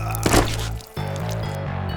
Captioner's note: body thud